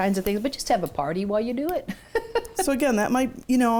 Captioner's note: chuckles